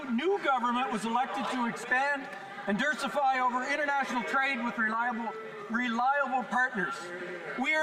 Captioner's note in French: voix de l'interprète